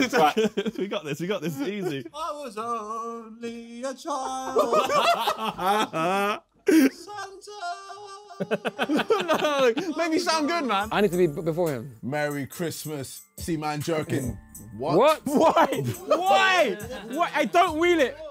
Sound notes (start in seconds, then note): 4.7 Sidemen laughing; 8.2 laughing